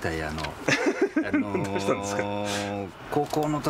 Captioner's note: laughs